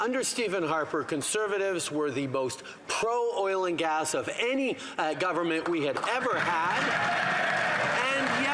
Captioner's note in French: voix de l'interprète